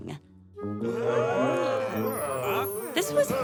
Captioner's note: surprised sounds